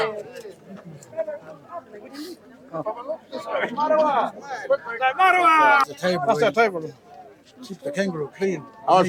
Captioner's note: speaking in Australian language